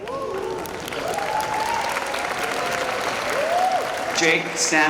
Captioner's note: applause